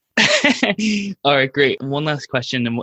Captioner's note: laughing